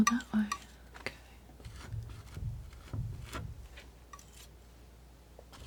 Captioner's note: scratching